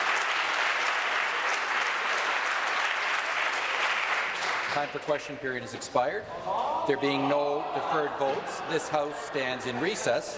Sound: applause

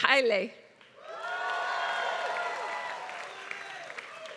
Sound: applause

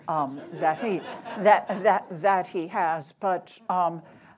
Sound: audience chuckles

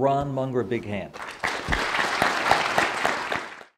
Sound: applause

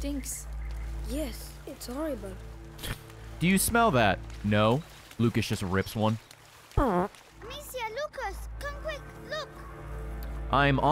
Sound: fart noise

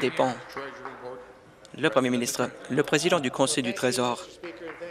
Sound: applause

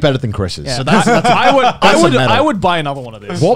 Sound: laughing

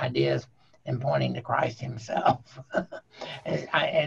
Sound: chuckling

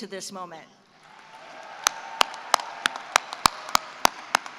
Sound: cheering and applause

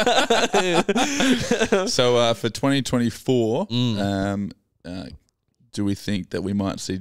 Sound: laughing

